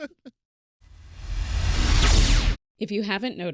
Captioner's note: electronic whoosh